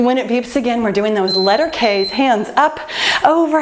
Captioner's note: time beeping